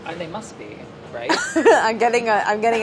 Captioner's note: laughing